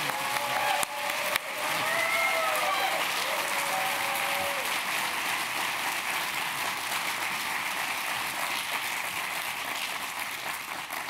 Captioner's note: applause